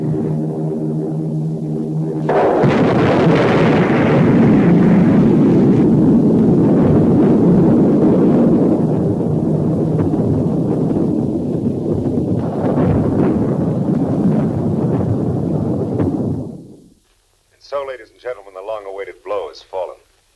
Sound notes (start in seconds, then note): 2.1 explosion booming